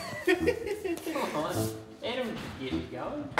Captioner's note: laughter